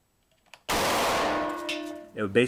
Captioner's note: loud Bang